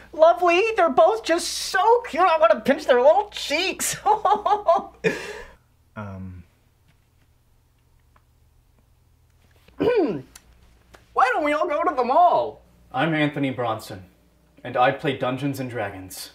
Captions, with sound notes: Lovely they're both just so cute, I'm gonna pinch their little cheeks! *laughter* Uhmm... *throat clearing* Why don't we all go to the mall? I'm Anthony Bronson, and I play Dungeons and Dragons.